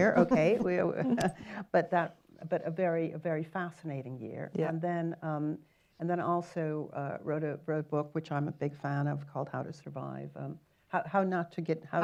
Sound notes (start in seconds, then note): 0.1 chuckles